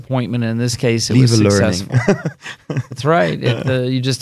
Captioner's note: laughing